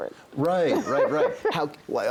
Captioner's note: laughs